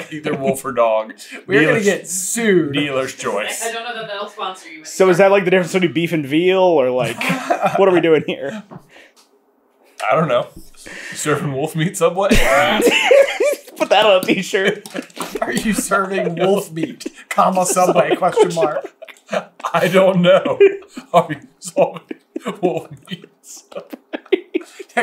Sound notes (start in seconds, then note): 13.2 bursts into giggles; 19.3 barely getting it out between laughter